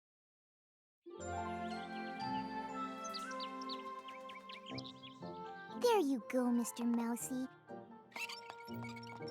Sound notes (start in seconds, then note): 2.6 birds chirping